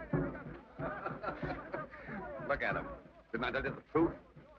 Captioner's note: chuckles